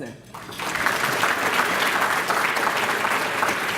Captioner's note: applause